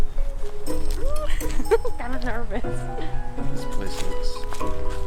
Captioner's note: laughs